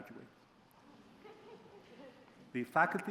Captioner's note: soft laughter